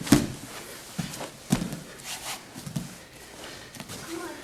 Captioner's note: soft thudding